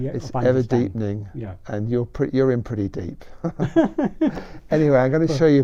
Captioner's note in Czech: smích